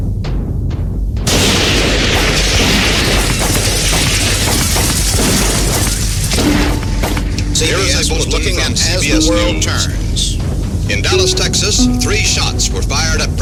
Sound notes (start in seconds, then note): 1.3 shot banging